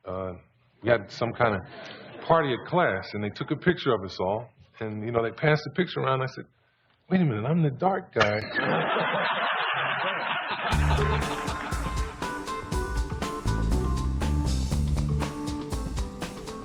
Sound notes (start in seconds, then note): 8.2 laughter; 10.7 upbeat funky music